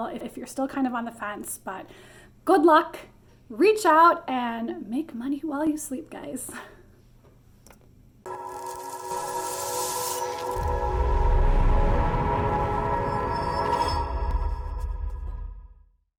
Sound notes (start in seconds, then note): 8.3 mysterious music; 8.7 graphics whooshing